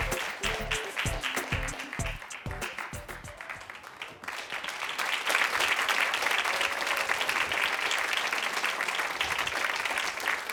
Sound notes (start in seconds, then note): 3.7 audience applauding